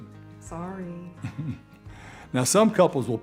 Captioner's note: chuckles